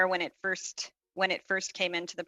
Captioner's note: speaking French